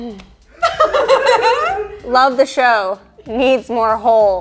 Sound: girls laughing

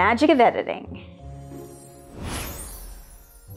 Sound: tinkling magic noise

